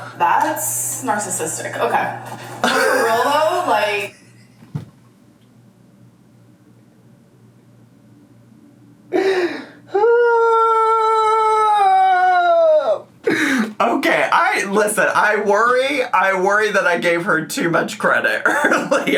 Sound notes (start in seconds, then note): 4.5 laughs